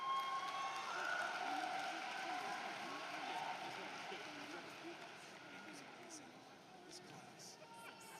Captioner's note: applause